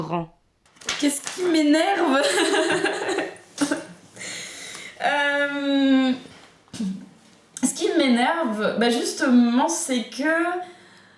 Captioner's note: laughters